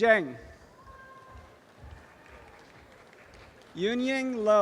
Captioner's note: audience applause